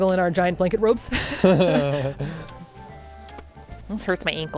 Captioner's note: both laughing